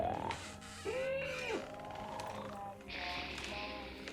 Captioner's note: wood creaking